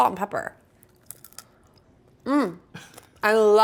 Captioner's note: food crunches